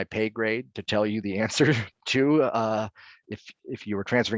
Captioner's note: laughing